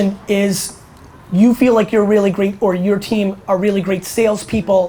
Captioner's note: none